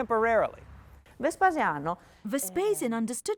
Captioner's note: speaking in foreign language